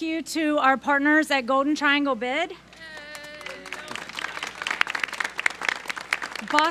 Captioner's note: applause